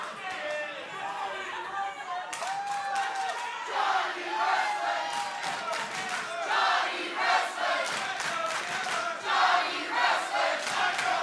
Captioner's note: crowd cheering